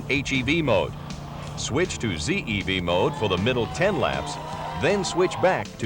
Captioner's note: cheering